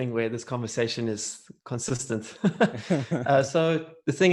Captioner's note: laughs